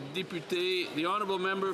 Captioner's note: speaking French